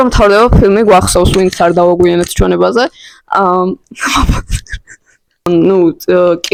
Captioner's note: awkward chuckle